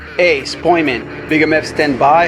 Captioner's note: none